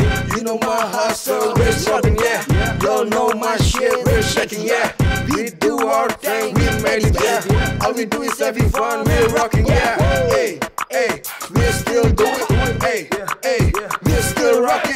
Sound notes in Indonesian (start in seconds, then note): 7.2 skaart skaart